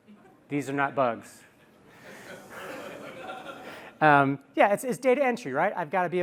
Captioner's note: laughter